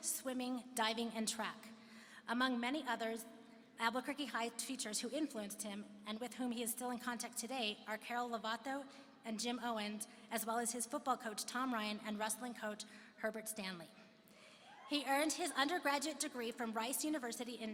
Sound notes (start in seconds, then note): none